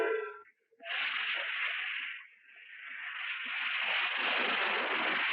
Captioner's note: steam engine chugging